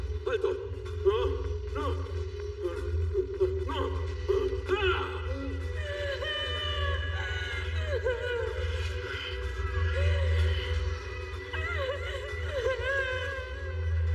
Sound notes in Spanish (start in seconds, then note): 3.4 Grita